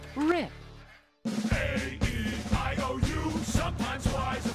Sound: chanting

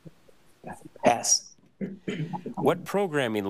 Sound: clears throat

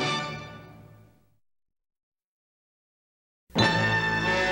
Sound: old-fashioned TV fanfare plays; silence; old-fashioned TV fanfare playing

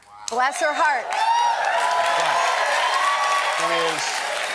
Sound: applause and cheering

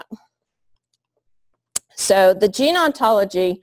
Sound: pause

